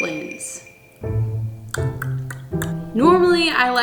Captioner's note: clicks tongue